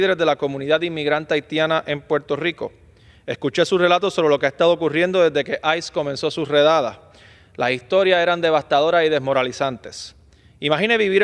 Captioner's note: speaking spanish